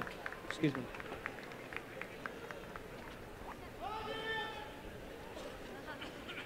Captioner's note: applause and cheering